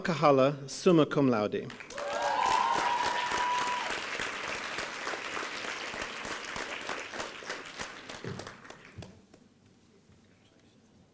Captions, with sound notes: Yara Alcahala, Suma Cumlaude. (applause and cheering)